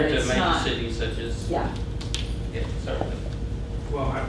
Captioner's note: voiceover; voiceover